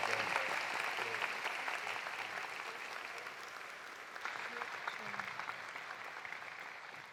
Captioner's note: applause continues; cheering continues